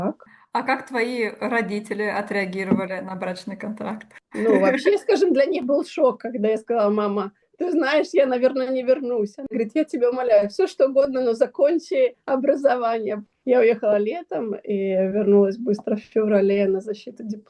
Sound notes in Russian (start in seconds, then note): 4.3 смех